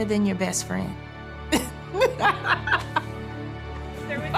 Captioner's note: laughs; laughing